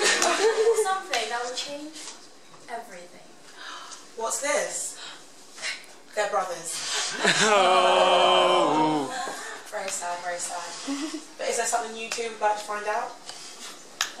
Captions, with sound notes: I've got something that will change everything! What's this? They're brothers! [JEERING] Very sad, very sad. But is there something you too would like to find out?